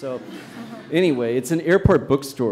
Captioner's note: audience laughs